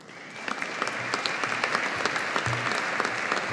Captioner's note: audience applauding